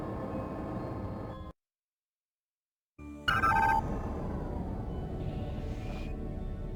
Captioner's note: phone ringing